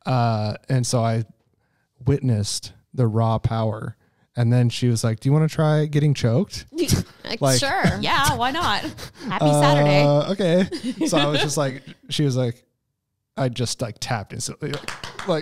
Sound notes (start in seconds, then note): 7.4 chuckles